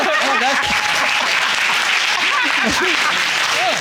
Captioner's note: all laughing; audience applauding; both laughing